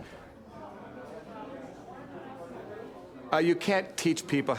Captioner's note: background chatter